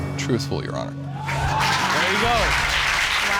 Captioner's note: audience applauding, cheering